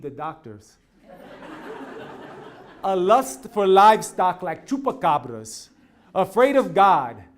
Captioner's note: laugh